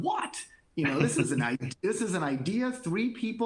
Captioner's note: laughter